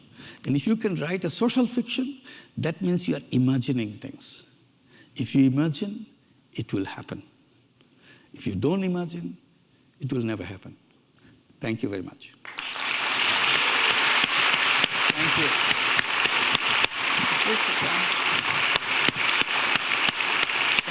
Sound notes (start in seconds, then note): 12.4 audience applauding